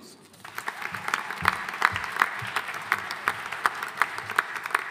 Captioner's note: audience applauding